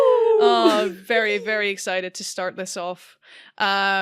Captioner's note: excited noises from all!